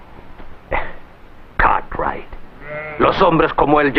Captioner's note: scoffs